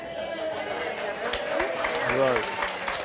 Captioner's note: applause